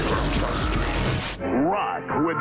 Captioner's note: static